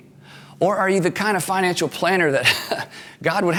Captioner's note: laughs